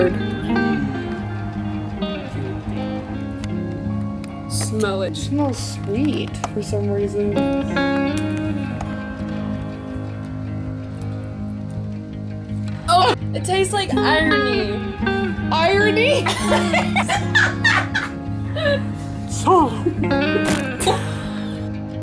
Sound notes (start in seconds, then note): 13.3 gags; 16.1 laughter; 19.8 laughter